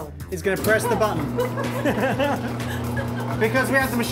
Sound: all laughing

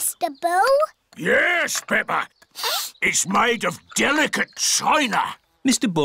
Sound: sniffs

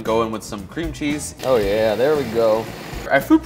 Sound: food processor whirs

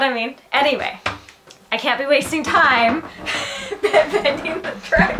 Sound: laughs

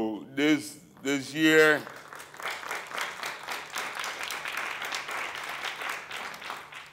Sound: applause

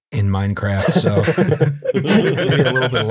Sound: laughter

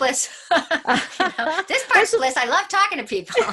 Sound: laughing

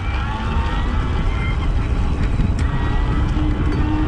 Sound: motor whirs

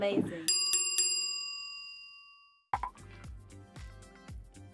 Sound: bell dinging

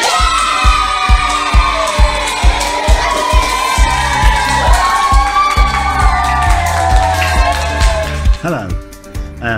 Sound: cheering and clapping!

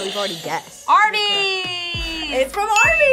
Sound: buzzer rings

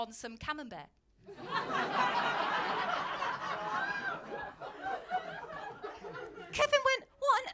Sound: laughter

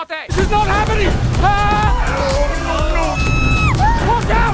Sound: screams

